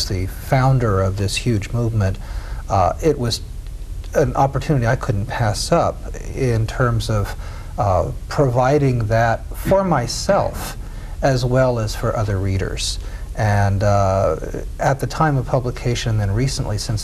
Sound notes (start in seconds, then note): none